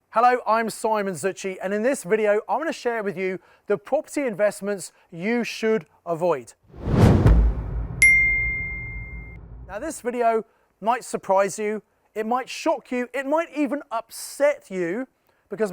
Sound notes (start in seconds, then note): 6.8 page swishing; 8.0 text chiming